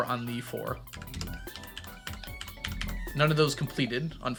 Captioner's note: keyboard clacking